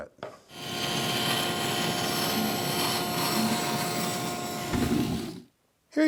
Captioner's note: bandsaw roaring